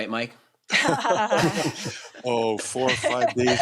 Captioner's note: laughter